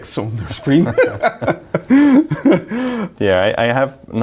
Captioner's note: both laughing